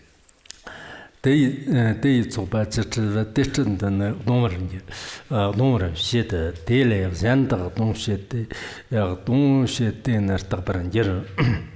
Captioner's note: giving oral transmission in Tibetan